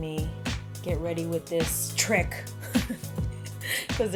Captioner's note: laughing